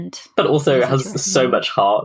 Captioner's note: laughs